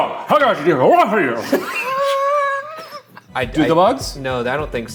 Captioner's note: both laughing